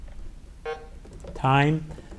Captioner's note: button buzzing